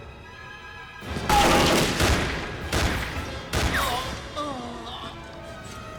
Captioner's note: gunfire clattering; Castellano groans